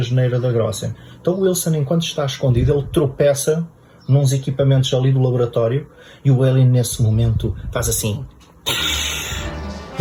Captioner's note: alien noises